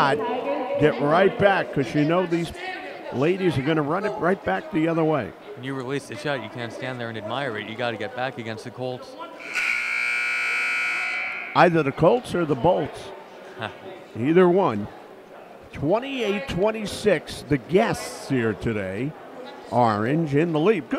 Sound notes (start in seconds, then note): 9.4 buzzer sounds